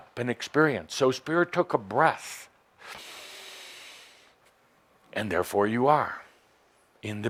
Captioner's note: Adamus takes a deep breath